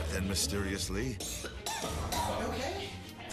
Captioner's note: coughs